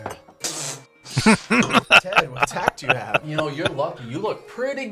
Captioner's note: laughing